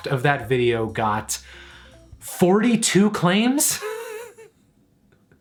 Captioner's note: laughs